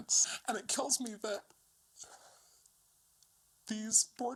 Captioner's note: voice is choked up